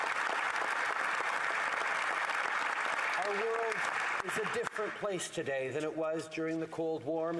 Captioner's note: applause